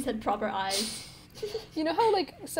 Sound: sniffs and giggles

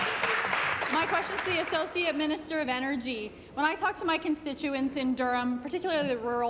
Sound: applause

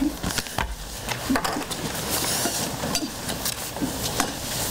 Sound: papers shuffling

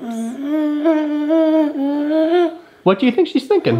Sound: humming

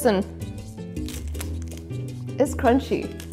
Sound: taco bowl crunches

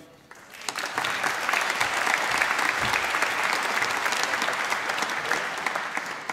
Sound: applause

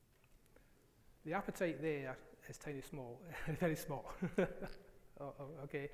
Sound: laughs

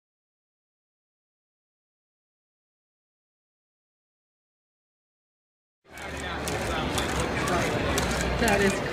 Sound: people talking and laughing

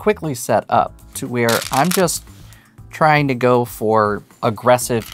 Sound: stones rattling

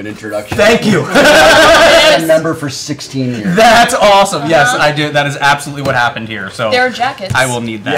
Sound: laughs

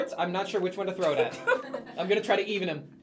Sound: laughs

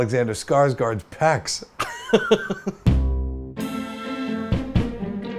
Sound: laughs; theme music

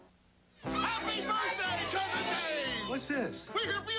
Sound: family yells in unison

